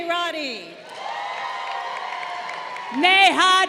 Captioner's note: crowd cheering